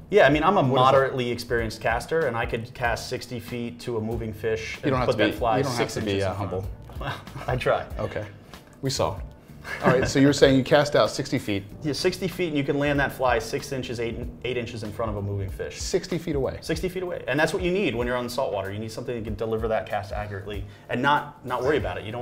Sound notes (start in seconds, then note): 6.9 laughs